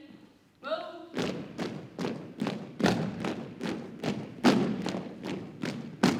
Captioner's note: rhythmic thumping continues